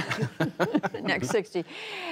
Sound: laughter

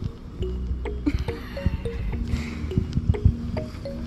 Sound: laughing

